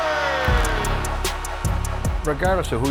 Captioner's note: crowd cheering; goal Horn